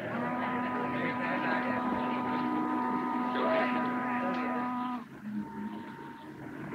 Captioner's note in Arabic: صوت البوق; ثرثرة الناس